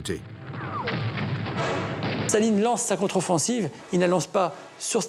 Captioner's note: guns firing